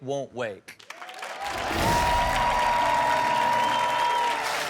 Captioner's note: audience applauds